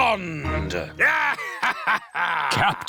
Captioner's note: laughs